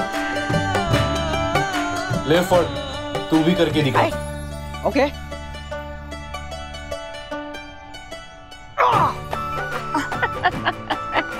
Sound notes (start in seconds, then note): 8.8 yells in pain; 9.8 laughing